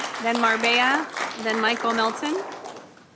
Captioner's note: applause